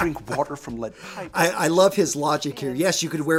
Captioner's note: laughs